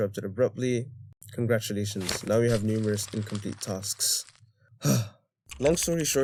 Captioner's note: sigh